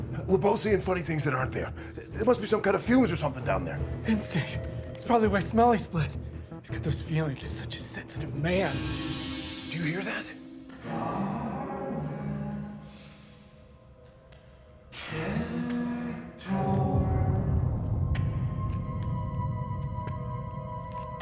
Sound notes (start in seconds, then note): 9.1 metal rattles; 18.4 eerie music